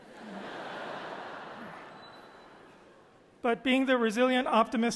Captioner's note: audience laughing